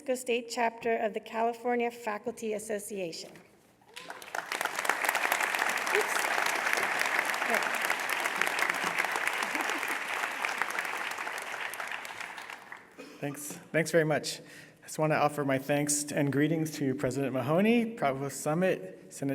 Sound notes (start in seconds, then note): 3.8 applause